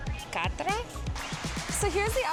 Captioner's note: speaker speaks in French; speaks in French